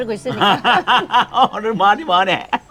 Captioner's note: both laughing